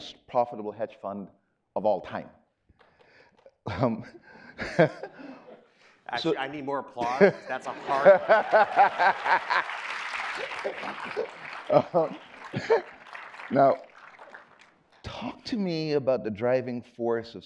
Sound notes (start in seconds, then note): 4.5 laughing; 7.6 audience applauding; 8.6 laughing